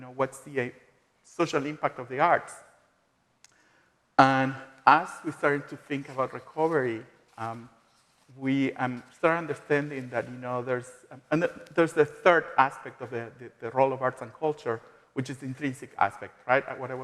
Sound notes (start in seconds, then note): none